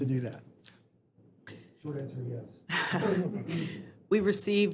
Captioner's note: laughter